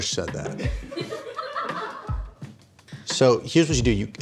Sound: laughing

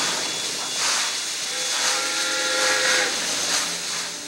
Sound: whistle blows

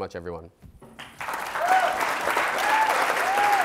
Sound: audience applauds

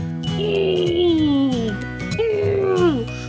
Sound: groaning

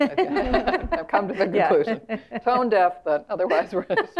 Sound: laugh

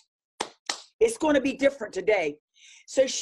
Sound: claps

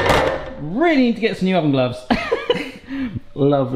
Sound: laughs

